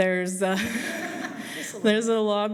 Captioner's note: laughter